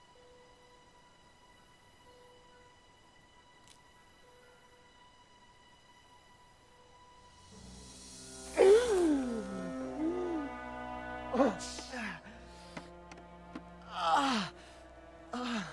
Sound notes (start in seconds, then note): 8.4 gasps for air